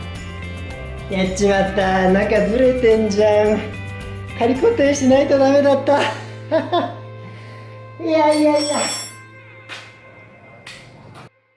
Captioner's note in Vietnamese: cười